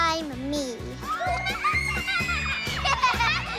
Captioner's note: laughing, squealing